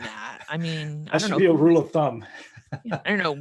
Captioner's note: laughing